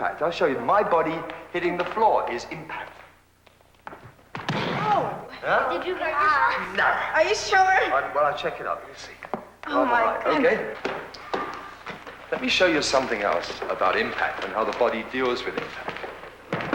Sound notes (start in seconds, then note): 4.4 thump